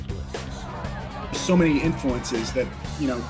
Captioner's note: crowd cheers